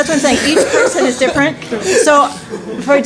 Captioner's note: laughter